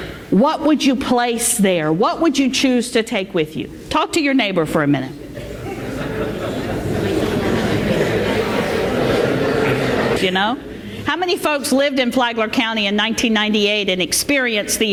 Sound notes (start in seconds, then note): 8.5 talking